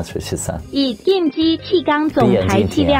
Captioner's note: speaking Taiwan dialect